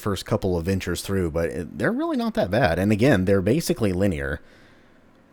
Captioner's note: none